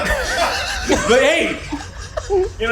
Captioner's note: crew laughs